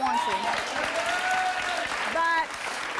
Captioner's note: audience applauds